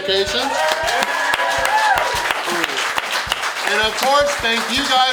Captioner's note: crowd cheers